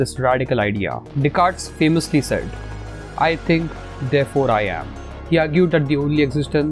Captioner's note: voice-over